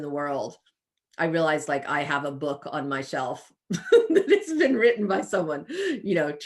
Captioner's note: chuckles